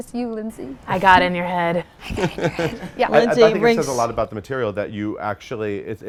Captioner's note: whispers